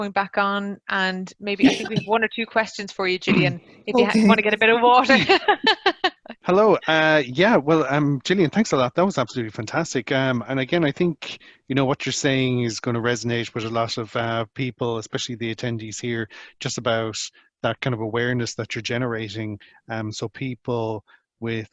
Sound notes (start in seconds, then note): 5.0 laughs